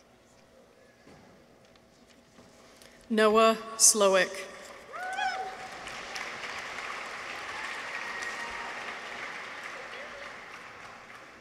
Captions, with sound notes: Noah Slowik. -(people cheer) -(audience applauds)